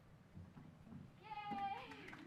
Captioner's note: applause